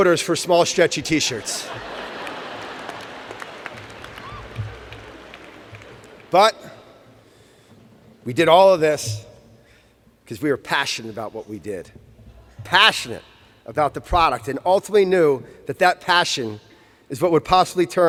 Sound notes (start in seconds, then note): 2.9 laughter